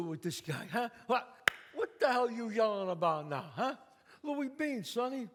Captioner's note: claps